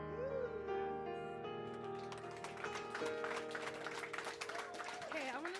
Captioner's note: applause